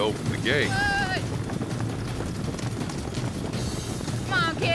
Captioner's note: horses galloping